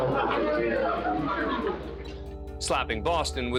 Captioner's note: indistinct chatter